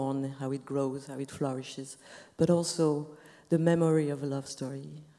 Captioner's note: none